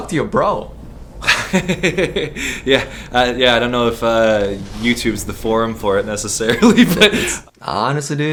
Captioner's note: laughs